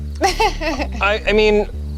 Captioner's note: laughs